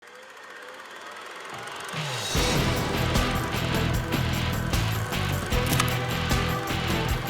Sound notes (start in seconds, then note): 0.1 movie projector rattling; 2.3 dramatic rock music